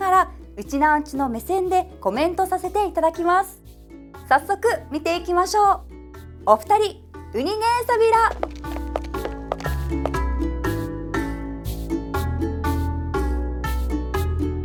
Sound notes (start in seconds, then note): 7.4 in Okinawan